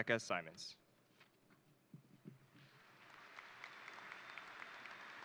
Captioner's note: crowd applauding